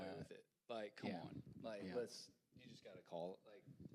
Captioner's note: none